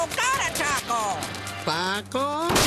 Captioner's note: crash